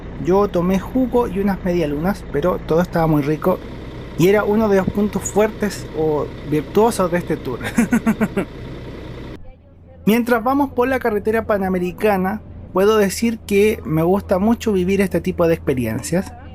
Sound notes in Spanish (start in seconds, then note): 7.6 risas